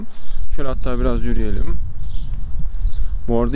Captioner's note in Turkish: rüzgar sesi